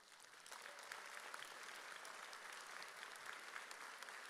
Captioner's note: audience applauds